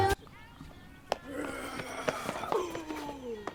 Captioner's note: Tommy growling